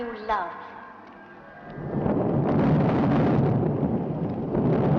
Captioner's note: thunder crashing